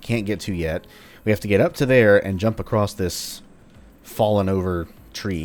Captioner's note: none